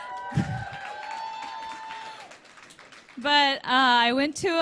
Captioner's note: laughs; applause, cheers